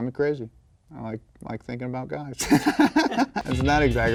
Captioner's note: laughs